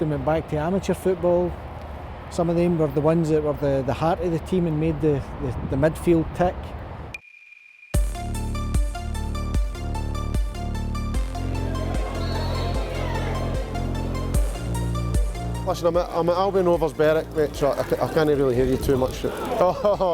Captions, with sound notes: and went back to amateur football. Some of them were the ones that were the heart of the team and made the the midfield tick. (upbeat music) (crowd chattering) - Listen I'm at Albion Rovers, Berwick, I can’t really hear you too much.